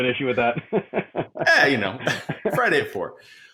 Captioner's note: laughing